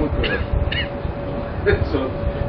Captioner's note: Gülüyor